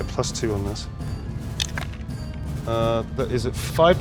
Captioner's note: die rattling